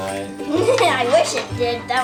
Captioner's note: laughs